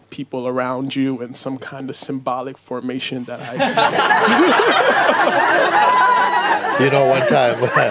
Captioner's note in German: Lachen